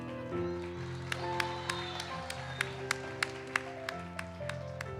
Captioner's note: audience applauds